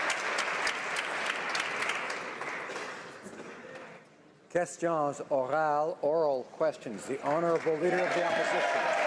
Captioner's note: applause